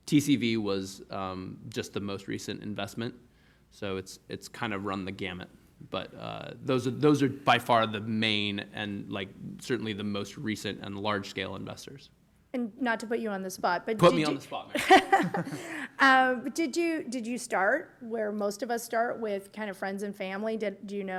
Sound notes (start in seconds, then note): 14.9 chuckle